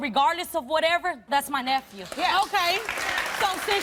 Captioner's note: applause